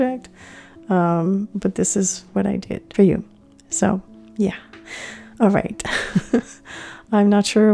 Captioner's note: laughing